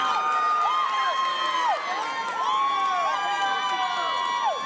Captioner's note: audience cheering